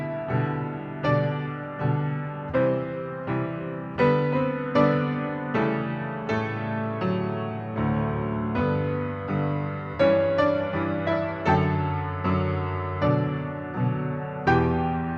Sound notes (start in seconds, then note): none